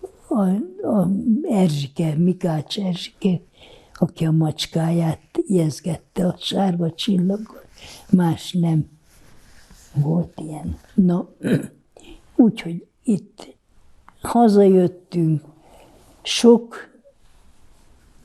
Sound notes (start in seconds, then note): 11.4 clears throat